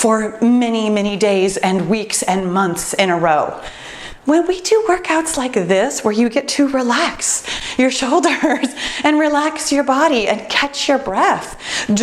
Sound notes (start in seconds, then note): 8.4 laughs